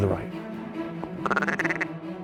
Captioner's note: duck calls